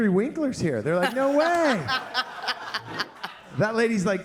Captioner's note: all laughing